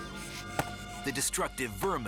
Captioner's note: stick thuds